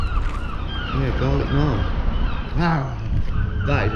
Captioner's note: growls